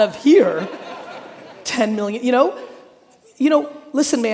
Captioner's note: audience laughing